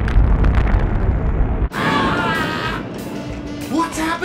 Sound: screaming

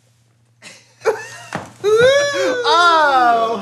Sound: laughing

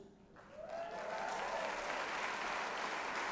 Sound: applause

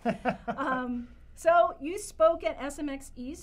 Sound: laugh

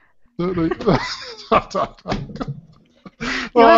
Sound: laughs

